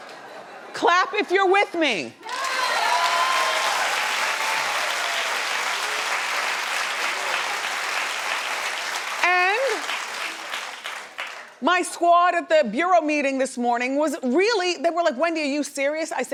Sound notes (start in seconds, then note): 3.1 audience clapping